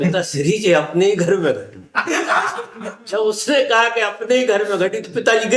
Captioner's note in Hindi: हंसी